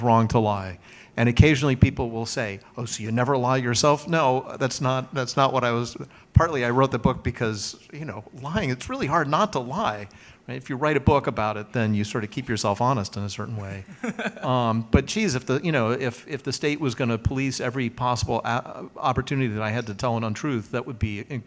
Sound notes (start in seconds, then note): 13.8 laughs